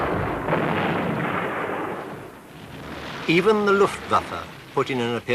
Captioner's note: mortars exploding